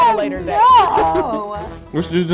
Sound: laughing

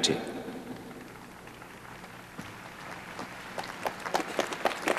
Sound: applause

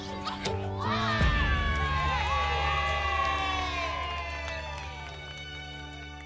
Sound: cheering

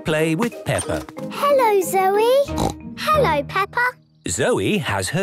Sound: snort

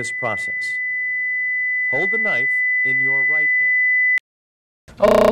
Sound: ringing

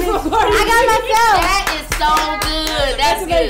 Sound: Jennifer claps

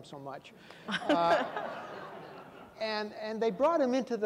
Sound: audience laughing

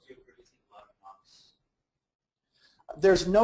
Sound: faintly speaks

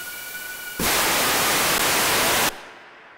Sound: loud static

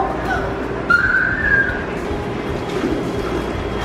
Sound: shrieks

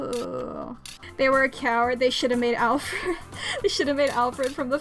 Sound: laughs

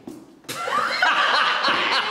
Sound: laughter

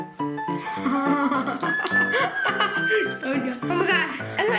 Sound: laughs

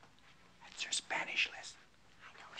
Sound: whispering

